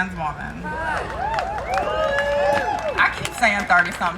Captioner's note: crowd cheering